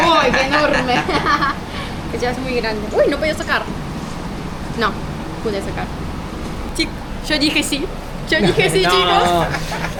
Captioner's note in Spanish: risas